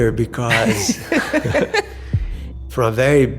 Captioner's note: speakers chuckling